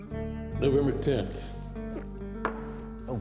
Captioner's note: gulps